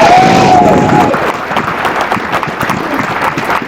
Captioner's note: applause